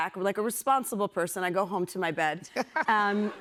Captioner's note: laughter